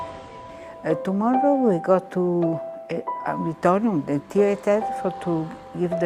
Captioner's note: speaking in foreign language